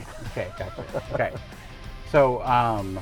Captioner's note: laughing